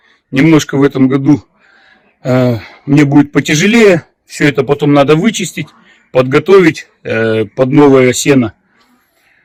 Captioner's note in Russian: вздыхает